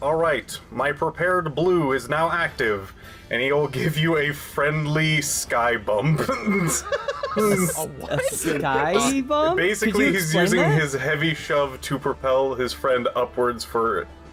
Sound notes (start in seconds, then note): 7.3 confused